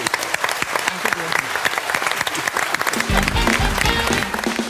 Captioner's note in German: Applaus